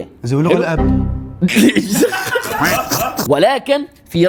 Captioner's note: laughs